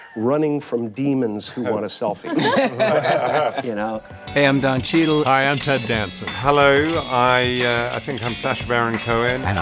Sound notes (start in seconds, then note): 2.2 all laughing loudly; 5.1 upbeat music